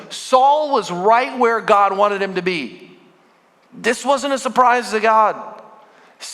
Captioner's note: none